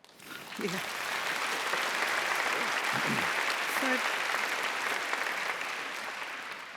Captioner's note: applause